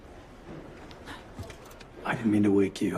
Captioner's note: startled gasp